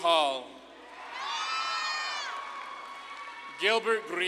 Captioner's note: audience claps and cheers